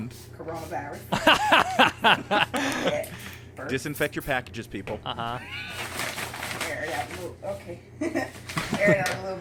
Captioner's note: laughter